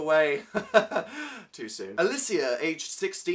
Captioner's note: chuckles